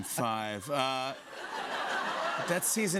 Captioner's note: laughter